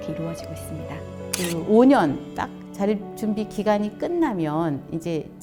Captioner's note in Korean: 찰칵 하는 효과음